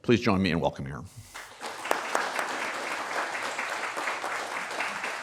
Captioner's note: applause